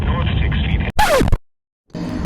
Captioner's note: record Scratch